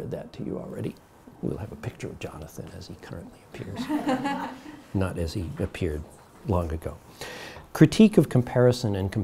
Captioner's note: audience laughs